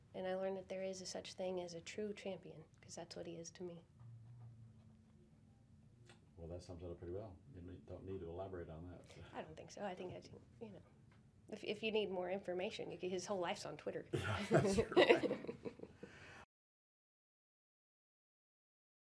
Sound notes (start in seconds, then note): 14.1 laughing